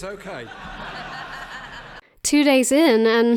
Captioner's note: laughing